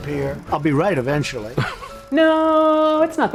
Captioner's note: interviewer laughs